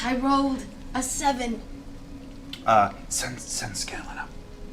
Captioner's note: whispers